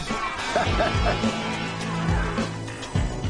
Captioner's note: laughing